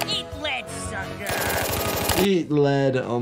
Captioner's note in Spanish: golpes de pistola